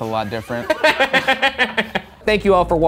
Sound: laughing

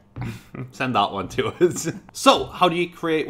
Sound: laughing

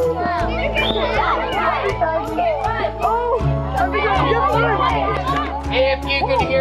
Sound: excited chatter, shouts, laughter

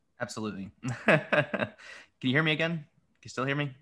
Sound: laughs

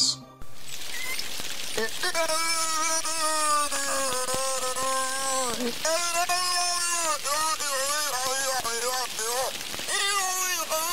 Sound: rambling beluga whale sounds

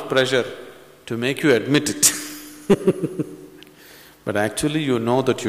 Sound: laughs

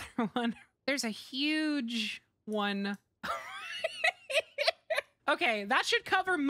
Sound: laughter

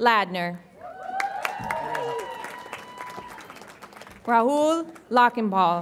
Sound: audience applauds and cheers

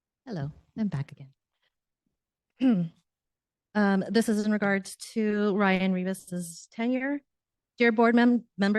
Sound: clears throat

